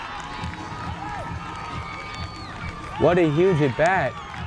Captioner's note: crowd cheers